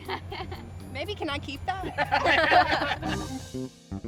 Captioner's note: laughs